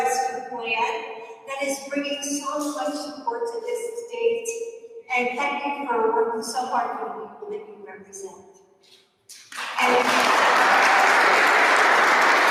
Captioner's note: applause